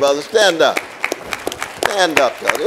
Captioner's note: audience applauding